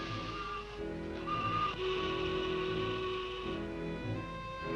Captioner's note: horn blares